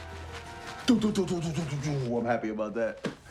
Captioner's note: vocalizes